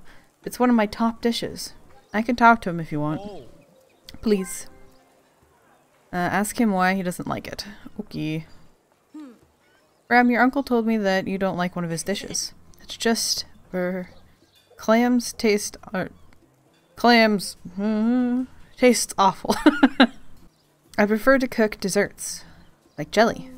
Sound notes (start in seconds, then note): 17.3 unsure hum; 20.0 laughs